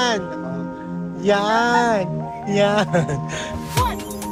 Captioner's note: laughing